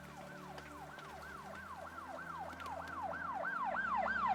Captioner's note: police sirens wailing